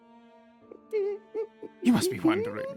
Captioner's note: confused Whimpers